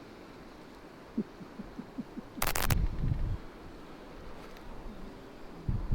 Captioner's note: Bruno laughs mockingly